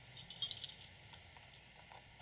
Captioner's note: bracelets jingle